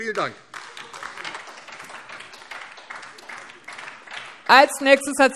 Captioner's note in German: Beifall DIE LINKE